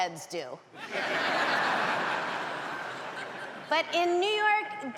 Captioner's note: audience laughs